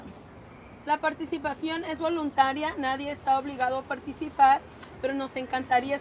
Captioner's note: translator speaks in Spanish